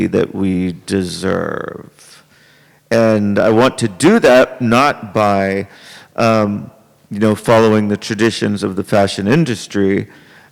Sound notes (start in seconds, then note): none